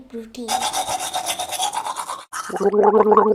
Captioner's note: brushing teeth; gargling